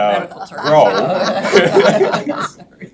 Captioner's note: members laughs